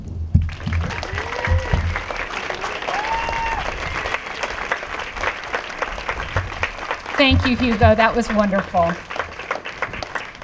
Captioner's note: applause